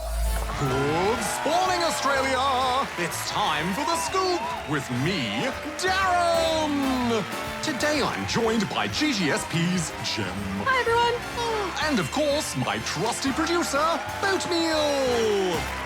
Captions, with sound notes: Good Spawning, Australia! It's time for The Scoop! With me, DARREN! (CANNED CHEERING AND APPLAUSE) Today I'm joined by GGSP's Gem. Hi, everyone. Ah. And of course, my trusty producer, Boatmeal!